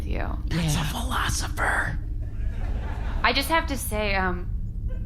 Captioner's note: whispering